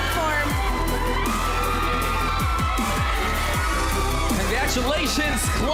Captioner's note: audience cheering, applauding